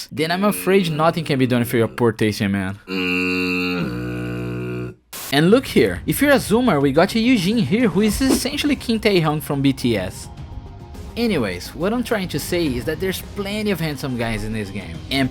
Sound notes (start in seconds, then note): 2.9 fog horn of disapproval